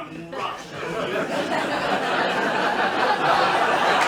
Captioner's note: laughter